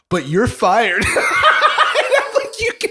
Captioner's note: laughter